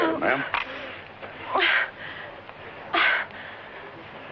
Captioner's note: gasping